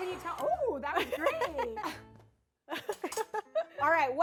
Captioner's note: laughs